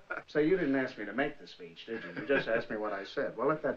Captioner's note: chuckling